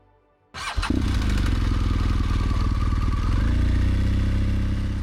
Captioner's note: engine chugging